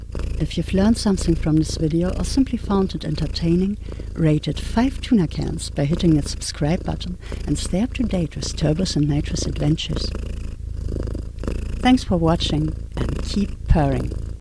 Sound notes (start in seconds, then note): 0.0 cats purring; 10.2 purring intensifies